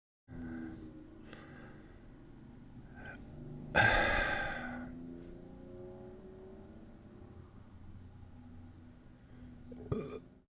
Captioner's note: traffic noise interfering with recording